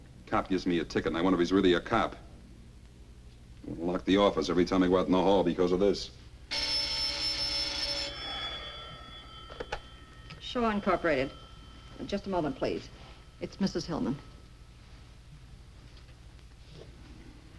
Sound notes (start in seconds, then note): 6.4 telephone rings; 6.9 Edward sighs